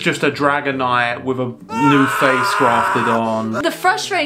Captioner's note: Dragonite screams